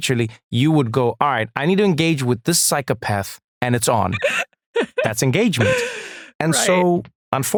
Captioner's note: laugh